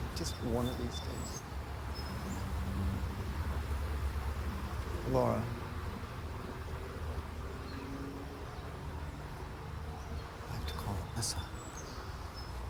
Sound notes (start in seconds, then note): none